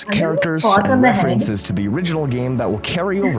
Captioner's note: laugh